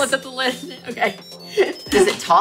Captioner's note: bell chimes; laughs